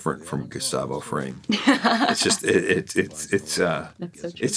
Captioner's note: laughs